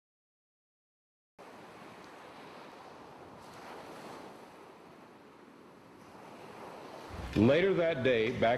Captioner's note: ocean waves